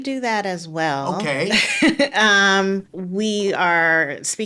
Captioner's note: laughing